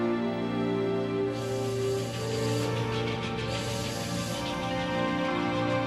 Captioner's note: <i> steam whistle blowing,</i> <i> train chugging</i>